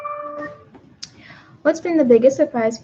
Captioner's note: computer dings